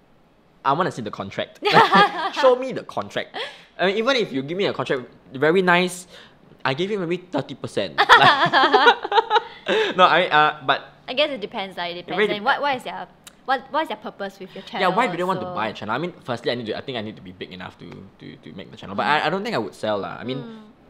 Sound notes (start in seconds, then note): 8.0 both laugh